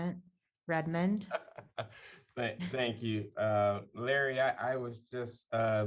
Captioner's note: laughter